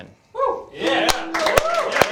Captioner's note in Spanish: aplausos